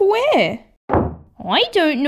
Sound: slam!

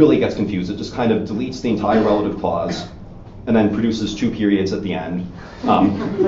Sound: audience Laughing

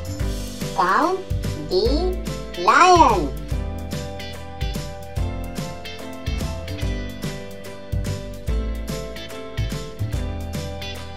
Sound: lion Sound

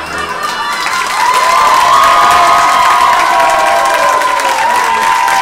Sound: audience cheers and applauds

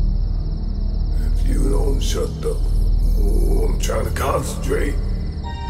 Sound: talking to himself

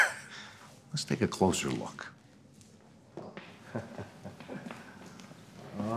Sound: chuckling

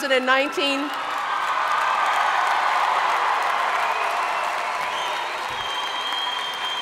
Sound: audience cheering and applauding

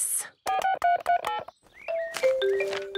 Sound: phone beeping

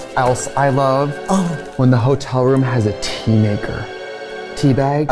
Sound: gasps

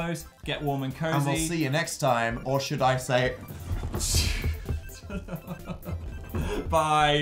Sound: chuckles

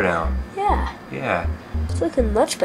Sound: voiceover

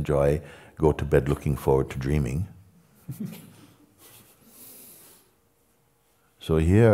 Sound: laughter

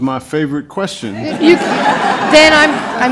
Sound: laughter

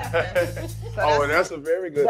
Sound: laughing

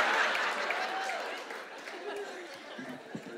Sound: laughing

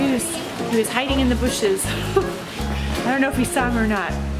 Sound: laughs

